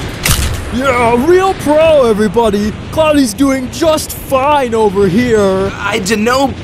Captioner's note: sarcastically